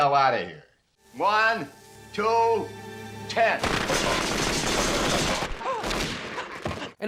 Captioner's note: firecrackers popping